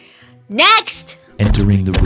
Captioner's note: heavy metallic footsteps